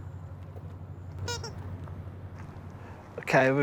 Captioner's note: squeak